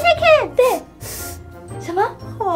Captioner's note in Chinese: 用力嗅聞聲